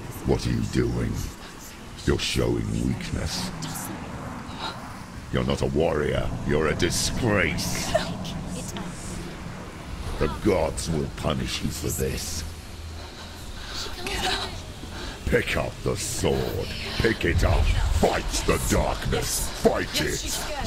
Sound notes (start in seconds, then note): 4.2 trembling breath; 7.7 whimper